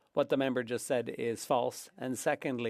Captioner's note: speaking French